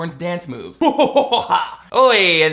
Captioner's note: evil laughing